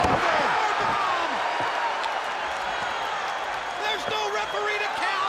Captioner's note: crowd cheering